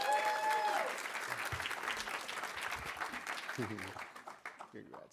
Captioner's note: audience cheering; audience applauding